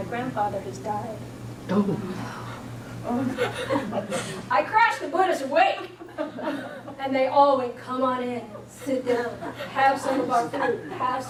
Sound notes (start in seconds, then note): 1.8 audience gasping